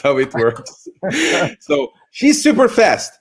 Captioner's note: all laugh